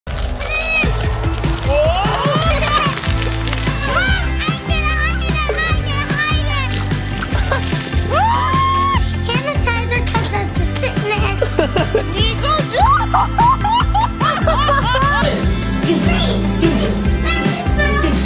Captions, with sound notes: (upbeat music) - Whoa! (upbeat music) - Hide it, hide it, hide it, hide it! (water splashing) (scream) - Sanitizer keeps out the sickness. - Nico, don't. (laughing) (bees buzzing)